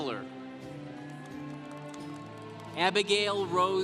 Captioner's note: congregation applauding